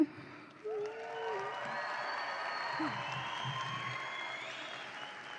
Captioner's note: audience applauds and cheers